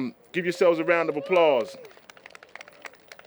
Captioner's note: applause